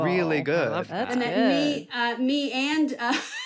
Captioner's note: laughs